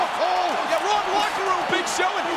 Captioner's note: presenter speaking faintly off mic